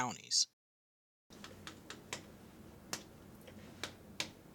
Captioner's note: tapping noise on phone